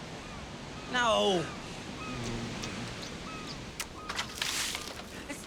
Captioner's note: making kissing sounds; shouts out